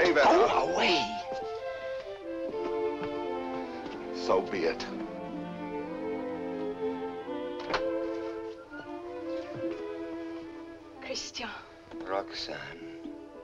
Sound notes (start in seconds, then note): 7.6 door opens